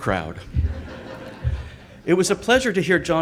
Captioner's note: audience laughs